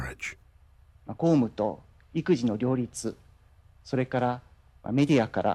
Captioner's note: Naruhito speaking in Japanese